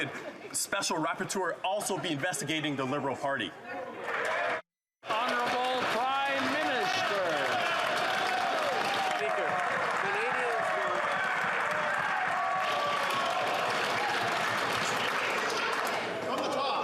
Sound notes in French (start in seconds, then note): 9.6 applaudissements; 11.6 voix de l'interprète; 16.3 applaudissements